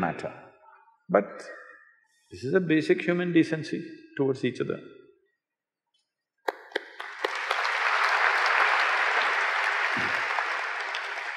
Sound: applause

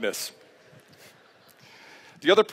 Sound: laughter

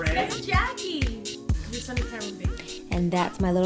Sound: chatter

